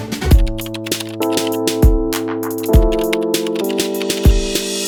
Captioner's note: keyboard clicking